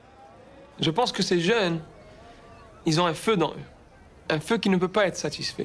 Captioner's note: speaking in foreign language